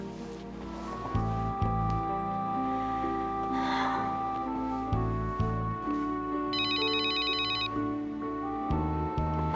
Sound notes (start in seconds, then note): 3.5 Laura sighs; 6.5 phone ringing